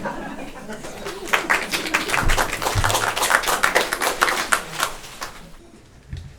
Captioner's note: audience applauding